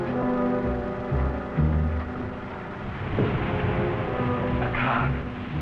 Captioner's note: car engine approaching